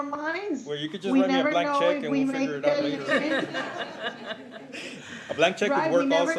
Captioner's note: laughter